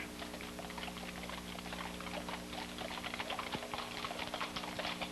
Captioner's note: horse hooves clopping